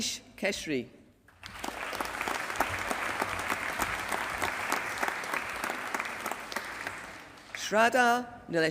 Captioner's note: applause